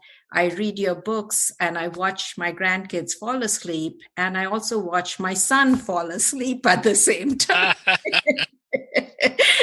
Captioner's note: laughter